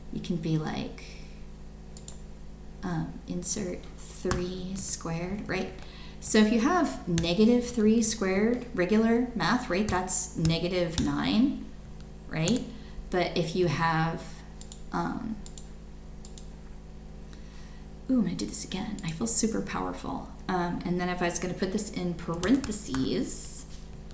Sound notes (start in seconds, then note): 16.2 computer mouse clicks